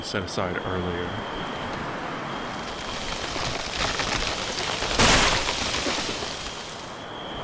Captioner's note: wind blows harder, trees begin creaking loudly